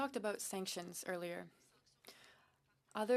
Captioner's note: speaking in French